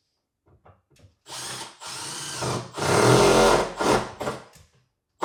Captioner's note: drill whirring